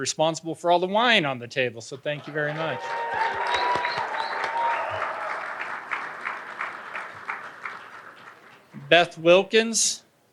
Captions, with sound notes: who's responsible for all the wine on the table, so thank you very much. (audience applauding and cheering) Beth Wilkins.